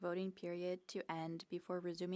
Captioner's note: speaking French